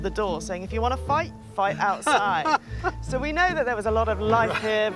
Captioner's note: laughs